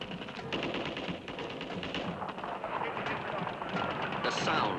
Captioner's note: rapid gunfire